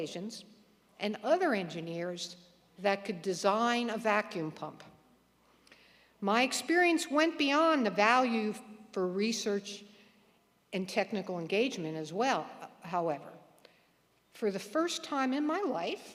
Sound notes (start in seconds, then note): none